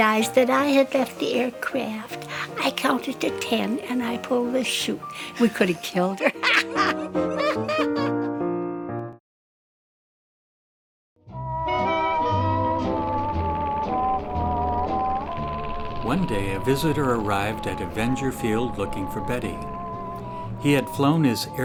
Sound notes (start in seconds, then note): 6.0 laughs